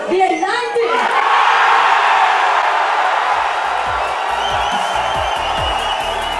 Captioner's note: cheering